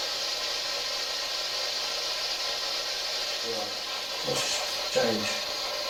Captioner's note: white noise buzzes